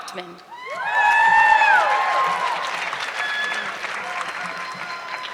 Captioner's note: audience clapping